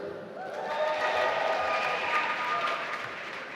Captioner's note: applause